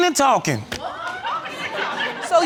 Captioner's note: audience exclaims and laughs